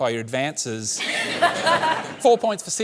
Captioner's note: laughter